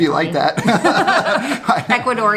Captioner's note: both laugh